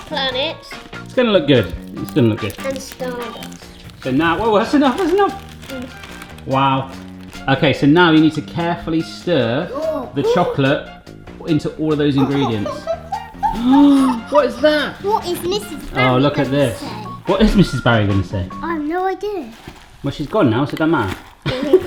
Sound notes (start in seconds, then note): 13.0 gasping